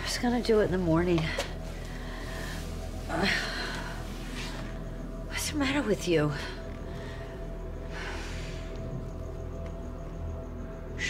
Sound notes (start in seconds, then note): none